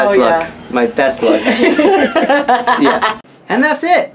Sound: laughs

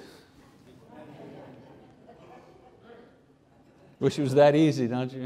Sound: congregation laughs

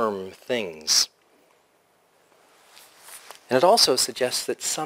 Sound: pause

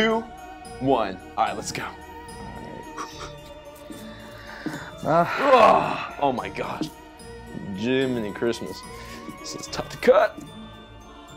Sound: grunting noise

